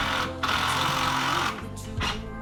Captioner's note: drilling